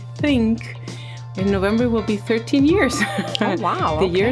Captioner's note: chuckling